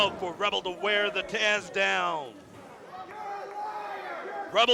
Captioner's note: crowd cheering